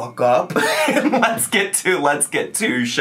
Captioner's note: laughing